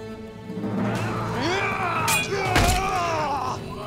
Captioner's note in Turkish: Kılıç sesleri